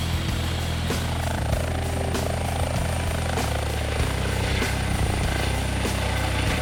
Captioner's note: helicopter sound